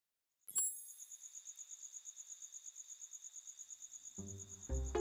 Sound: insects chirping; futuristic electronic beep; whimsical music

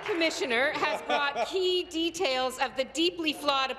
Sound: applause

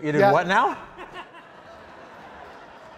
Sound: audience laughing

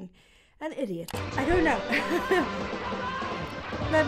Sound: chuckles

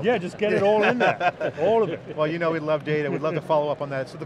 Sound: group laughs

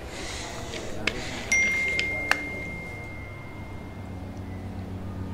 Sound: phone pinging

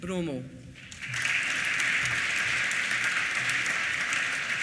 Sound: applause

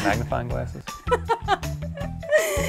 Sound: laughs

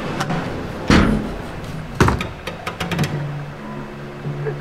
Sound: door slams

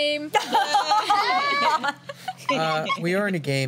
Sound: laughter

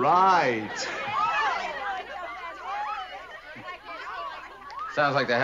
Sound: women's voices

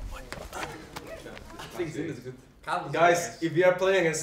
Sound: team chatting

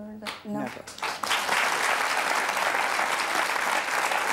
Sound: applause

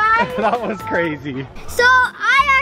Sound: laughs

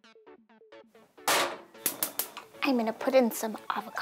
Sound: pan slamming

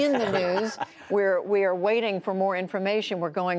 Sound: laughter

